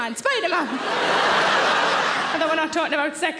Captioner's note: audience laughing